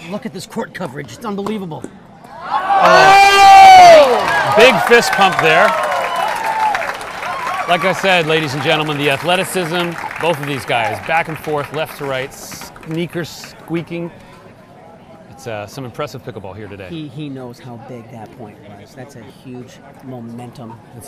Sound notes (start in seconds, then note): 2.4 cheering; 2.5 crowd cheering and clapping